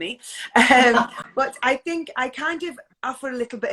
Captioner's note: laughs